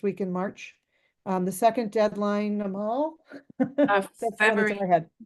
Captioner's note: chuckling